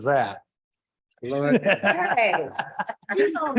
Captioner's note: laughter